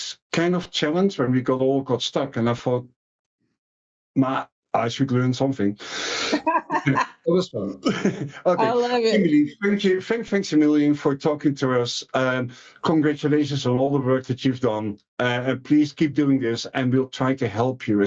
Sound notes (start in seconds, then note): 6.3 laughing